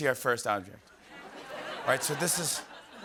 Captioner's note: laughter